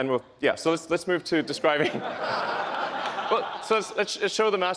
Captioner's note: laughs